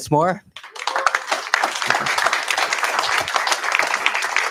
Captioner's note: applause